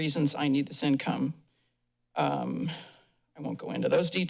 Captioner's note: pause